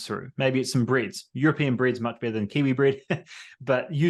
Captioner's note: laughs